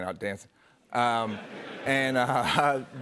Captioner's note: laughter